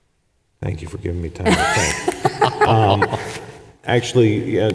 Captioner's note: laughs